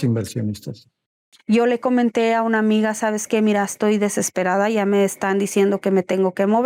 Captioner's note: speaking Spanish